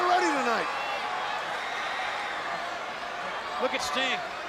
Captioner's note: crowd cheering